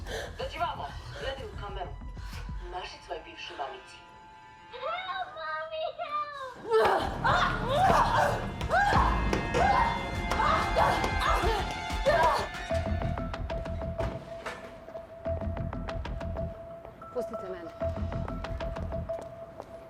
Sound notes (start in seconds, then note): 6.7 both grunting; 12.6 suspenseful music